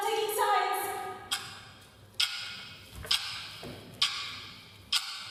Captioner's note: sound of a ticking clock